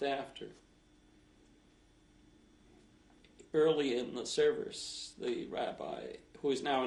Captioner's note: pauses for 3 seconds